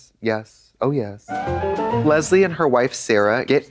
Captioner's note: bright chime